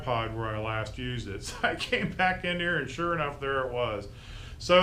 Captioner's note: laughing